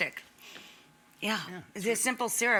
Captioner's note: sniffing